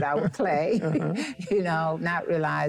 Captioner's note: chuckling